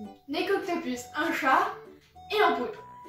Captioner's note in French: none